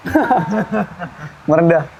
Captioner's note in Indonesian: ketawa